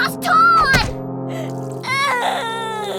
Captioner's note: sobs